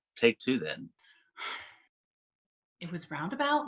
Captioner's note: woman sigh